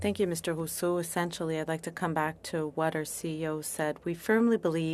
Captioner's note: speaking French